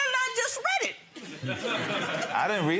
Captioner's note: spectators laughing